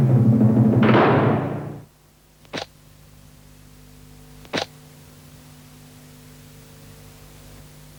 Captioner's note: gate Slam